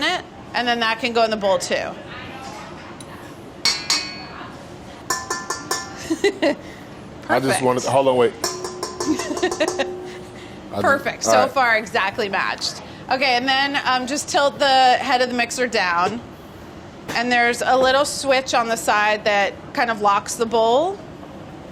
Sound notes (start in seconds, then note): 5.0 metal clanging; 8.4 metal clanging; 11.1 laughs